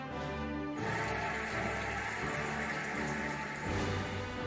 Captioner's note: cheering and applauding